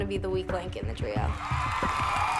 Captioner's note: cheering